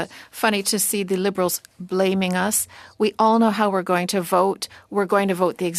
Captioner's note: speaking French